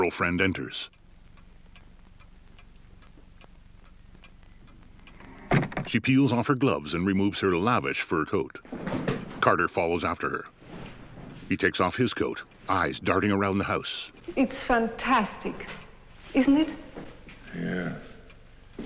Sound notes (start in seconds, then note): 5.5 door slams